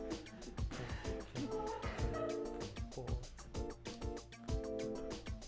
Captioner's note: whispering